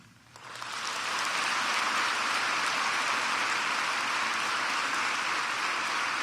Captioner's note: applause